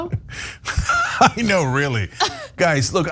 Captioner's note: laugh